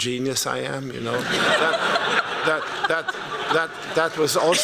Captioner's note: laughter